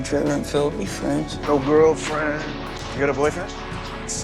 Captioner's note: voiceover